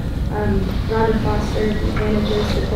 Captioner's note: rustling